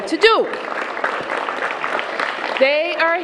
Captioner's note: applause